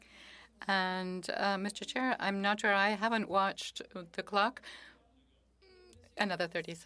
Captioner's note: speaking French